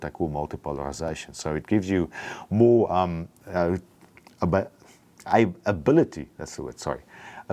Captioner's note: stutters